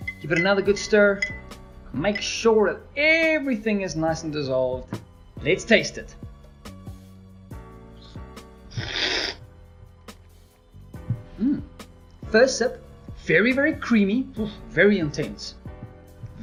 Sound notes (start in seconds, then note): 8.7 slurping